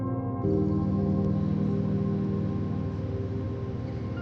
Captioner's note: white noise